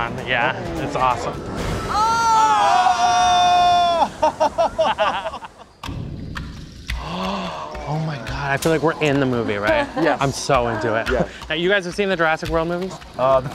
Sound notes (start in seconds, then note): 1.8 all screaming and laughing; 6.2 suspenseful music; 7.0 gasps